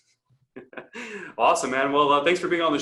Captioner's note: laughs